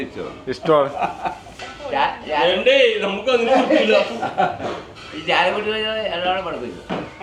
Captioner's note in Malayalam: പൊട്ടിച്ചിരി